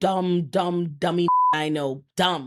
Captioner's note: beep